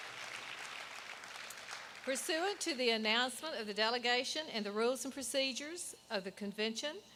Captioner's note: applause